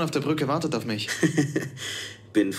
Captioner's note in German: lacht